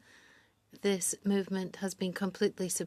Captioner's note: speaking French